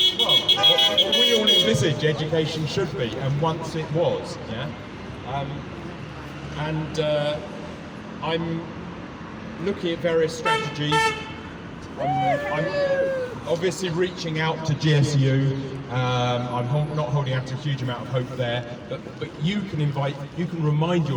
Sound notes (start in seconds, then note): 3.0 car horns; 10.6 car horns, whooping